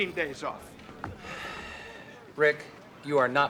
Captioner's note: sighs